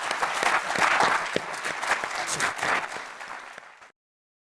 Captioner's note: applause